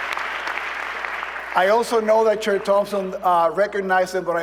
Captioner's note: applause